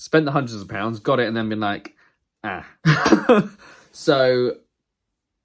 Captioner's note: laughs